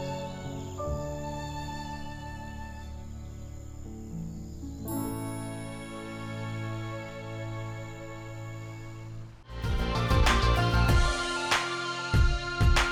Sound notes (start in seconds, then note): 0.1 soothing instrumental music playing; 3.5 birds and crickets chirping